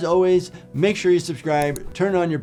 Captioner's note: mouse clicks